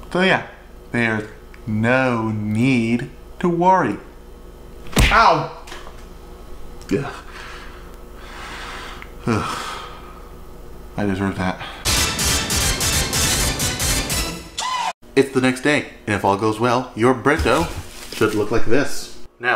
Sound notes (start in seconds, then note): 9.1 sighs; 11.8 dramatic musical sting